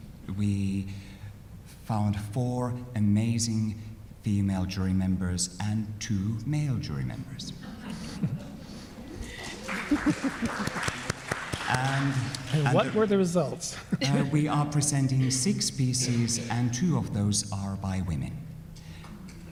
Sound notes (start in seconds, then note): 9.1 audience applauds; 19.3 audience applauds